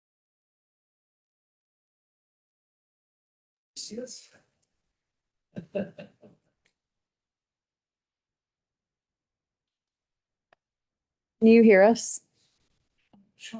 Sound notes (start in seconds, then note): 5.6 person chuckles